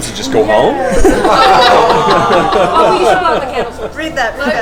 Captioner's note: laughter